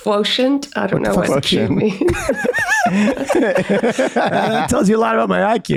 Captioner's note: all laugh